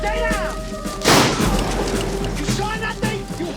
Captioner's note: gunshot